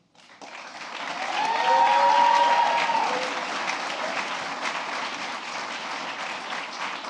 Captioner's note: applause